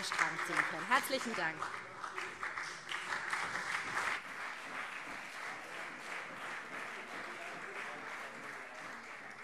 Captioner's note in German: Beifall SPD, CDU und vereinzelt BÜNDNIS 90/DIE GRÜNEN